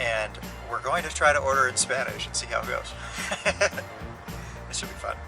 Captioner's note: laughter